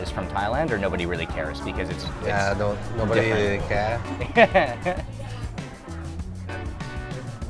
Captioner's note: laughs